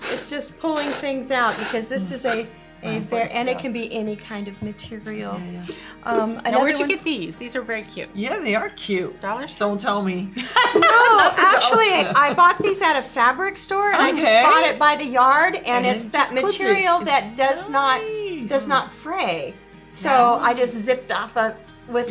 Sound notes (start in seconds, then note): 10.4 laughs